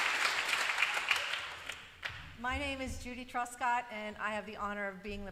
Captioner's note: applause